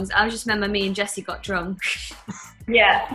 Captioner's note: laughs